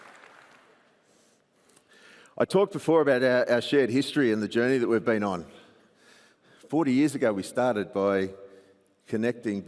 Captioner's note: applause